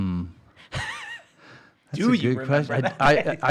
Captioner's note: scoffing